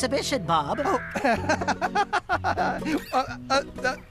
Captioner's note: laughing